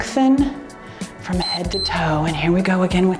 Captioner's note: timer beeps